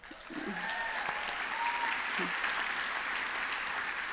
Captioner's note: applause